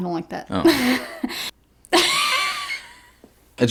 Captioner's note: laughs